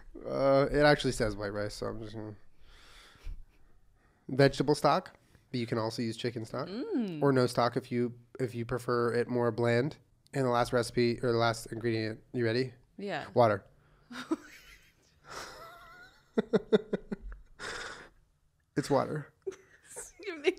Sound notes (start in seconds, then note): 15.3 laughter; 15.6 wheeze